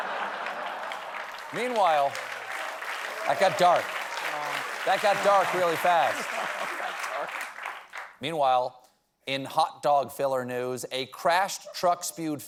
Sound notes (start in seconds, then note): 0.0 laughter; 0.7 applause